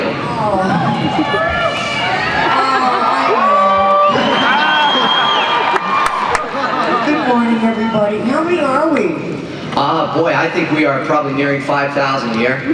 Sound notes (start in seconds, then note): 4.0 cheers